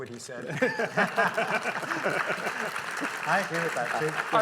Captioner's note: all laughing